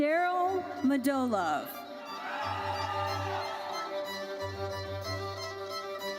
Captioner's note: audience cheers